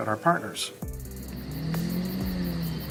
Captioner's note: engine roaring